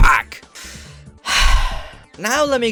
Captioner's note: exhale